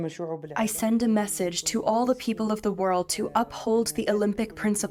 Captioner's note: through translator